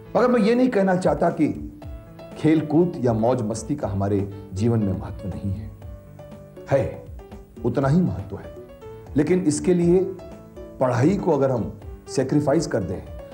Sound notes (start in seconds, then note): none